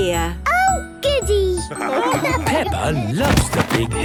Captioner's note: laughing